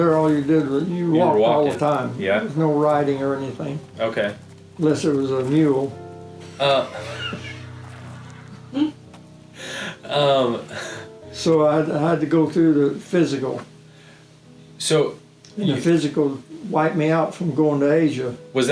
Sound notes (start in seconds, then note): 6.8 chuckling